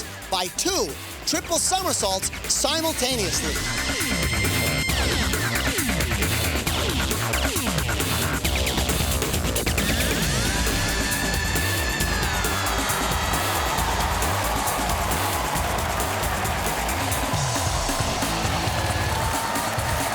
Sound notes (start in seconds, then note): 13.9 cheers and applause